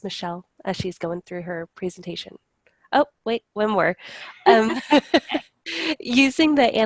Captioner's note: laughter